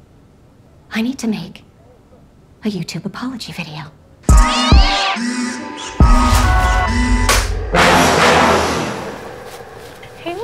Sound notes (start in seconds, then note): 4.3 screeching cat; 6.8 dramatic music